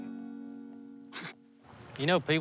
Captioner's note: snickers